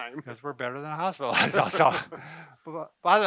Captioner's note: laughs